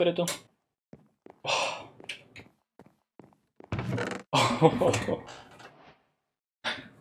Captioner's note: laughs; sighs